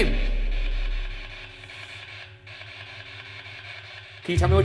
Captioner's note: device makes static noises